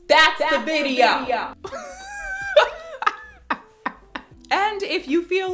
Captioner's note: laughs